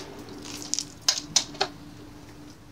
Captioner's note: wood rattling